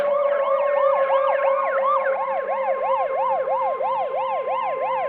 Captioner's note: police siren